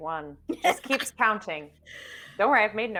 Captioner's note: laughing